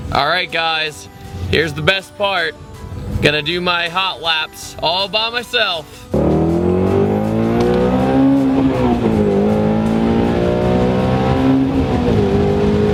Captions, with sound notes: Alright guys, here's the best part going to do my hot laps all by myself. (car engine)